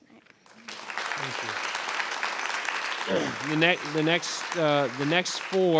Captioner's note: audience applauds